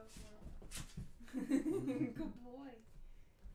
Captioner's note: laughing